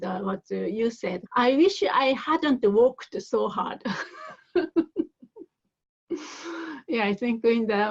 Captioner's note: laughs